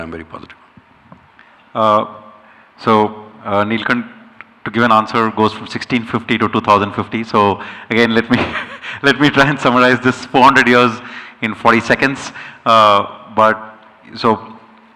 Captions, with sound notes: I'm very positive. Uh, so, uh, Nilkanth, to give an answer, goes from sixteen fifty to two thousand and fifty. So again, let me, [chuckles] let me try and summarize this four hundred years in forty seconds. Uh, but so,